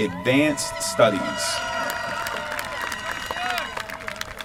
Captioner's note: applause